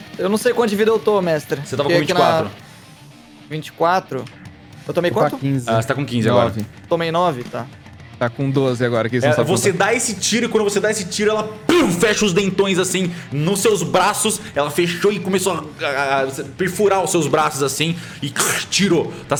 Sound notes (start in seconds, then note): 11.6 pow